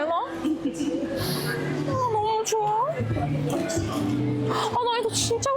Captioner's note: sob